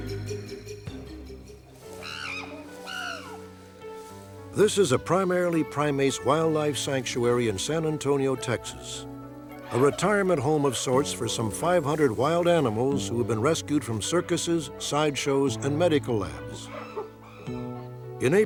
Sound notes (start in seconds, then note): 2.0 chimpanzee howling